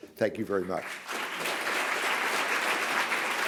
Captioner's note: applause